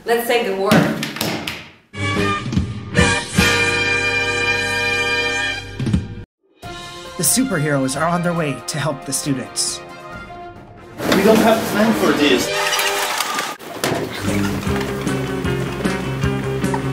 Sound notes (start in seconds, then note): 0.8 sound of hands slapping the table